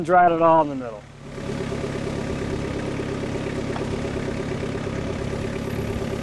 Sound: skid steer engine humming

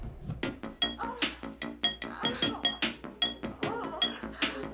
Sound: woman moaning

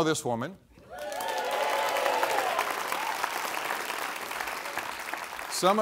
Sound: applause

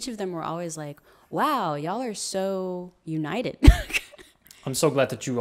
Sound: laughs

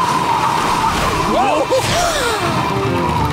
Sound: gasps

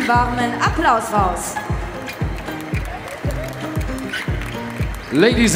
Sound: applause

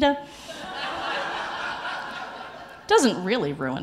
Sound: audience laughing

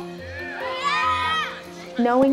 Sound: crowd cheers

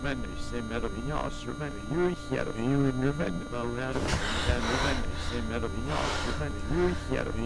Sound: Robin panting

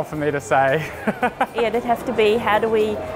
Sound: laughs

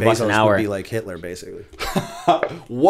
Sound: laughter

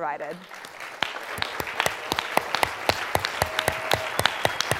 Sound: applause

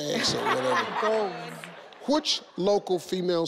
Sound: laughs

